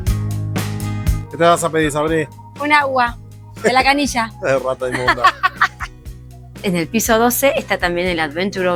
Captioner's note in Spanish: risas